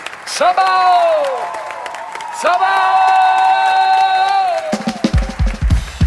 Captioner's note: cheering; applause; drum Solo